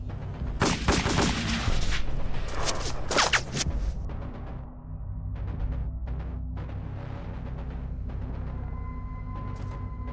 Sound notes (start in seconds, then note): 0.0 dramatic music; 0.6 gun firing